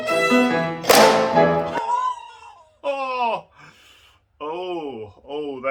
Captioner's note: violin breaking sound